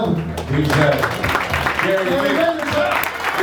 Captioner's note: audience applauding